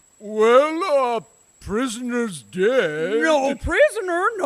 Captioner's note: disguising his voice